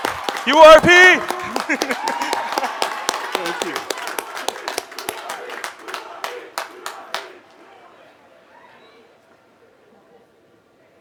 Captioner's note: applause